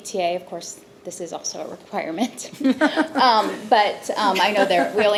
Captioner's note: laughs